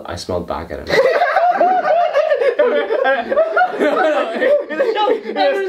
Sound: laugh

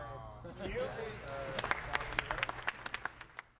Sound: crew applauding

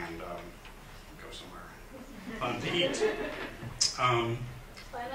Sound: laughter

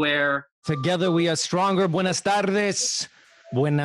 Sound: speaks in foreign language

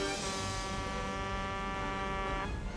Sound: truck honking

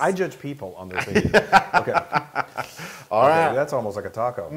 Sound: laugh

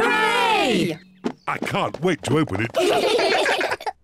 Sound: all giggle

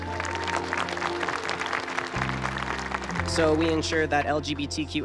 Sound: applause

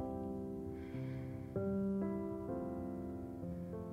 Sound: exhales

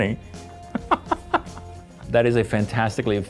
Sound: laughing

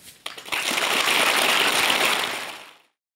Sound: applause

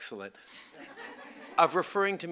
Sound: laughter

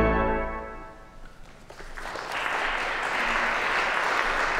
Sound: applause

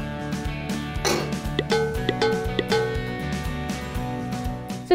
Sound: metal pinging

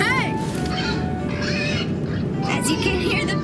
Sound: pig squeals

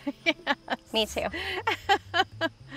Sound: chuckles

